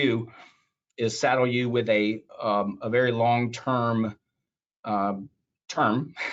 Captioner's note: laughs